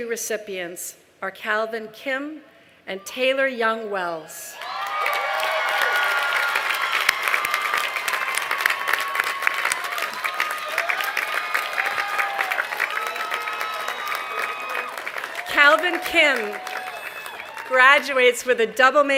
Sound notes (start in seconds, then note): 6.2 cheers and applause